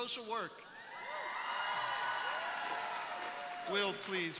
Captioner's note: crowd applauding